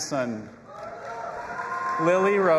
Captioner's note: audience applauding and cheering